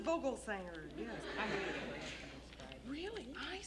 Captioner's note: Sue speaks quietly